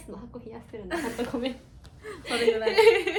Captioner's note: laughs